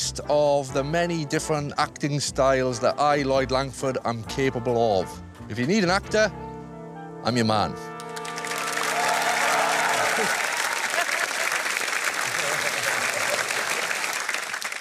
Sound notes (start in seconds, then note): 8.0 applause